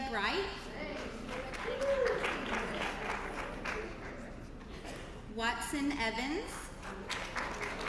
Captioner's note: applause